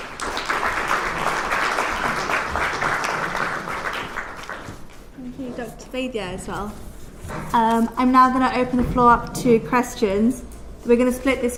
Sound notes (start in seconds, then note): 2.6 applause